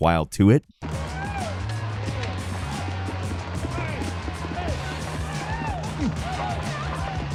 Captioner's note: crowd yelling; groovy upbeat music